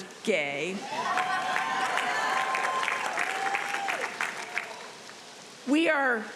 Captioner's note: audience cheering and applauding